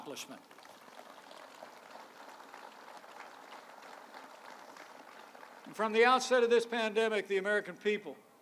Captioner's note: applause